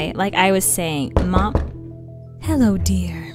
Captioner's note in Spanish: tocan a la puerta